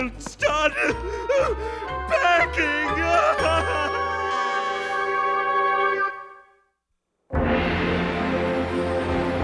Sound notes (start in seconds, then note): 4.0 sobbing